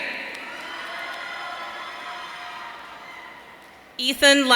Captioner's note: audience cheering